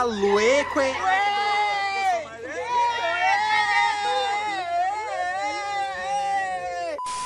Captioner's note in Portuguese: gritos